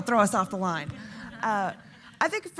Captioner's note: audience laughing